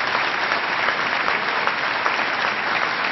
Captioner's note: applause